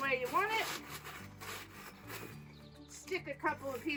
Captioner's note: plastic bag crinkling